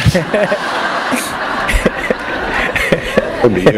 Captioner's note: laughter